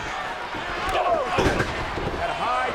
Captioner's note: body thudding; blow thudding